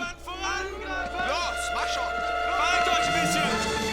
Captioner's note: speaking german